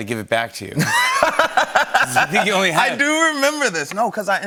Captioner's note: laughter